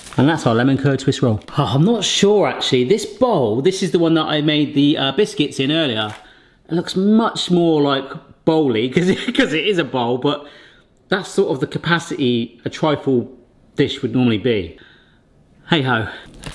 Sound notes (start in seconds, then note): 7.9 laughs